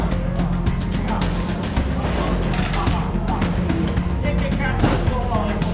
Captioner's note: speaks in foreign language